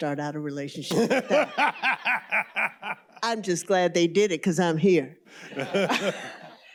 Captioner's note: laughter